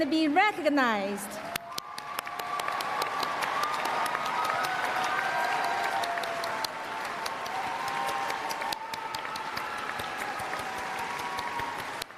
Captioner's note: applause